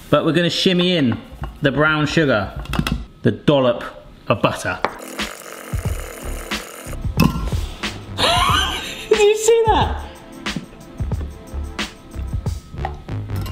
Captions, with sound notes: But we're gonna shimmy in the brown sugar, the dollop of butter. (upbeat music) (laughing) You see that? (upbeat music)